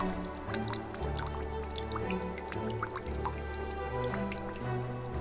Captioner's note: the sound of lapping water